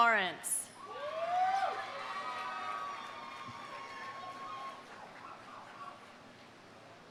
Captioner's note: audience cheering; audience applauding